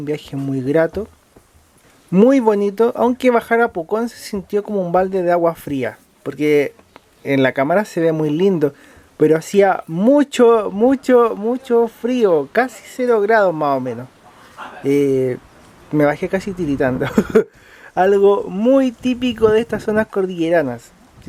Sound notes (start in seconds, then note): 16.8 laughs